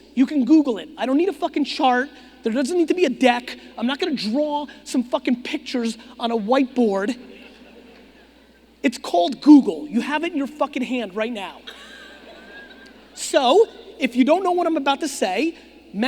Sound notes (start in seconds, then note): 11.6 audience laughing